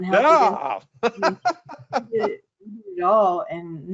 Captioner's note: laughing